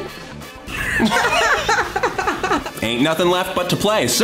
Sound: laughs mildly

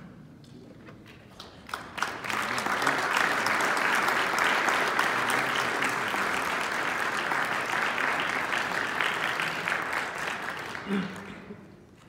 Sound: applause

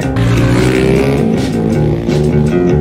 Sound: Moto FART NOISES

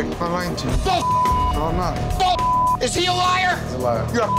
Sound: Jon screaming profanity

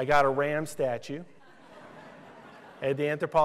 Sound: laughter

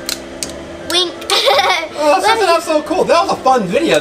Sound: laughs

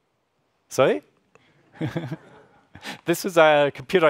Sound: laughs

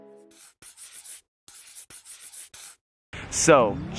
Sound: marker writing

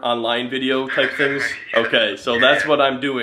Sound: laughs

